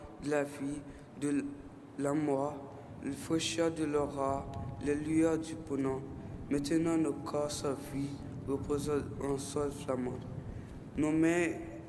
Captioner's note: speaking French